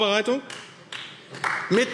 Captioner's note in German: Beifall AfD